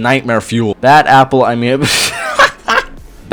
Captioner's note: bursts into laughter